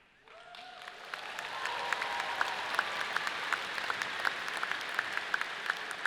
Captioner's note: audience cheering and clapping